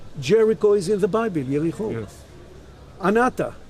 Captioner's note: speaking in Hebrew